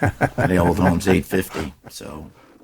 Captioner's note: panelists laughing